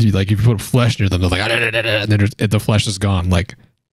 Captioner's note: crazed chewing sounds